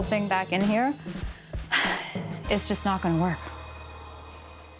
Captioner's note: sighs